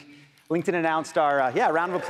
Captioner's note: audience applauding